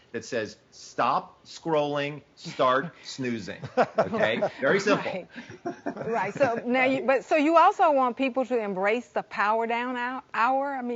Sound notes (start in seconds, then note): 3.6 laughing